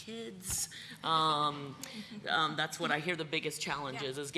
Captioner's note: laughter